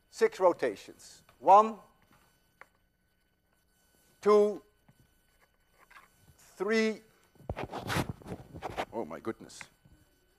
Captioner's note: loud rustling against microphone